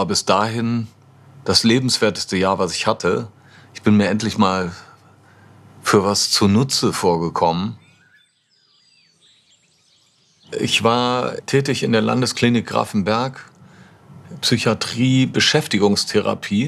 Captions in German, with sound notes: Das war bis dahin das lebenswerteste Jahr, das ich hatte. Ich bin mir endlich mal ... für was zunutze vorgekommen. (Vogelzwitschern) Ich war tätig in der Landesklinik Grafenberg. Psychiatrie, Beschäftigungstherapie.